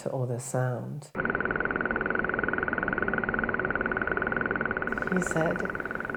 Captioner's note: clicking repeating sounds